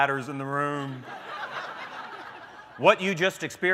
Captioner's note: laughter